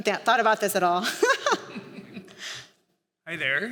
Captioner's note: laughter